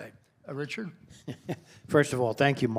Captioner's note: laughter